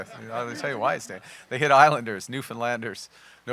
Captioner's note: laughter